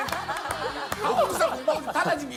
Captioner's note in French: Applaudissements; Rires